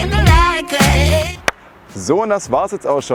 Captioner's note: clap